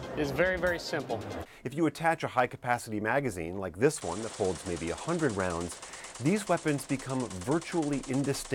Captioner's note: gunfire